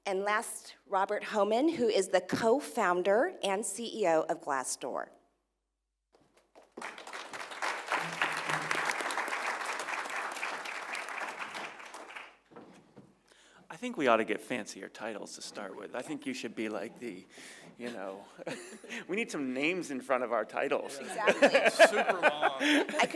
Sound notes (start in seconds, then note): 12.1 applause; 20.8 laugh